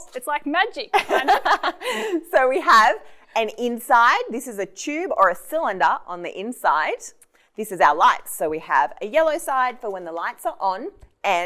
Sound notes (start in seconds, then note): 1.0 laughing